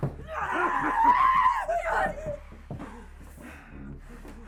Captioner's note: Sue shrieks